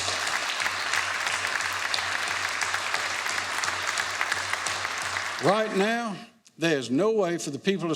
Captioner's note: applause